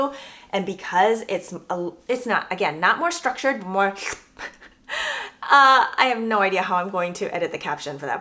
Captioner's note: makes sucking in sound